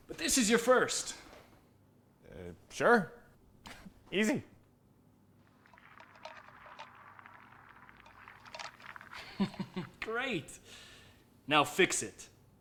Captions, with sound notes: But this is your first. - Sure. Easy. (liquid boiling) - (laughing) Great. Now fix it.